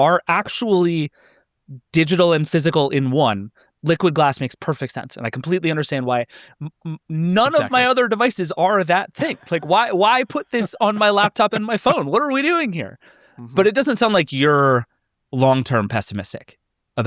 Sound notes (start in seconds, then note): 9.1 laughing